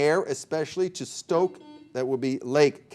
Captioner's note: buzzer beeping